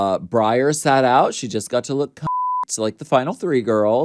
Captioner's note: beep